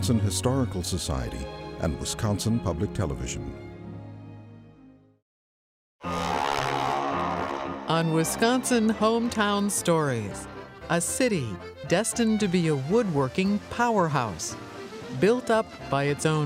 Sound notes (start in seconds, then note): 4.3 airplane engine buzzes